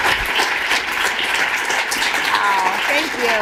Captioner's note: applause